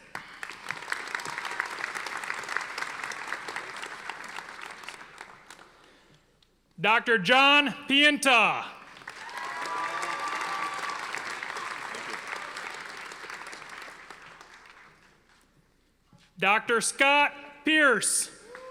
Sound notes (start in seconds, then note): 0.0 audience applauding; 8.9 audience applauding